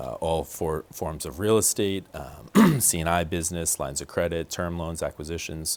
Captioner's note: clears throat